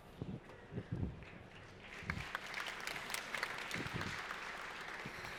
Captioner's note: applause